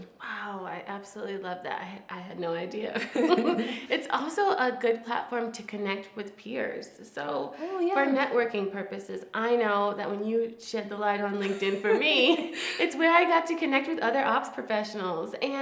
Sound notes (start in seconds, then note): 3.0 both laughs